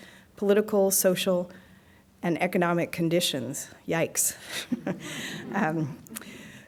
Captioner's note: chuckles